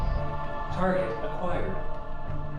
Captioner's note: computer voice